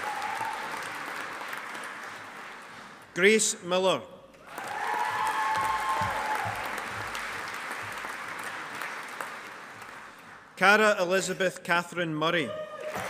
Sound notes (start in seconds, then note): 4.4 audience applauding; 12.8 audience applauding